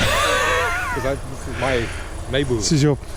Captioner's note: laughs